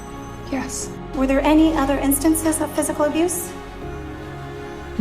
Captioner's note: voiceover